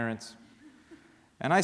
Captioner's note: laughter